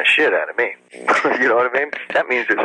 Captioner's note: chuckles